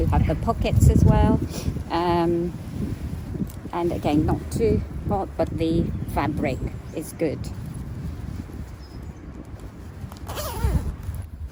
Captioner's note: zips up